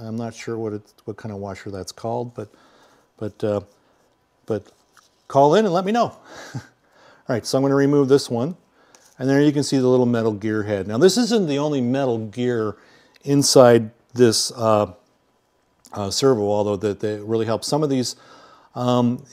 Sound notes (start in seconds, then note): 6.7 laughing